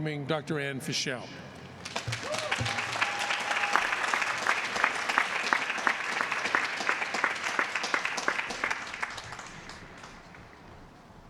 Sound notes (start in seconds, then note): 4.6 applause